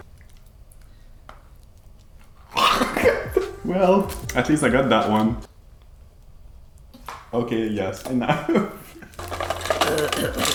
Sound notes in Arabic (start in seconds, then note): 2.6 يضحك; 2.8 أصوات تكميم الأفواه; 8.7 ضحكات خافتة